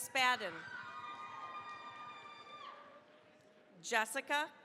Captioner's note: cheering, applause